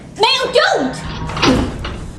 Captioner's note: door